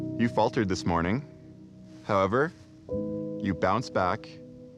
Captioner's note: none